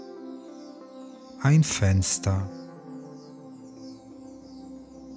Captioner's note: german